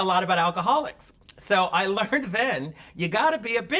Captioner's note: laughing